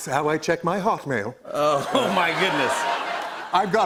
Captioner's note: laughter